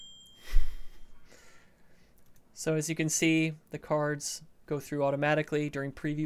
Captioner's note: ding!